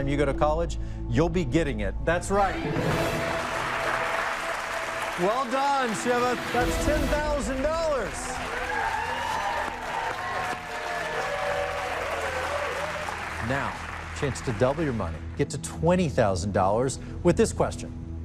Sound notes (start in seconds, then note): 8.8 cheers and applause